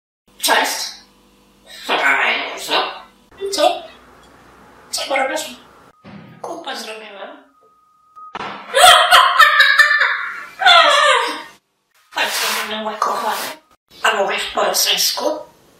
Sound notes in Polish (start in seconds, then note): 8.7 śmiech